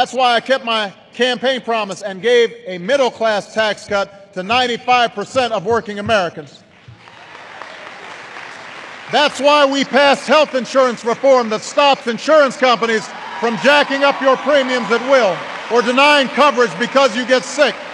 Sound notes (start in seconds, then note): 7.1 applause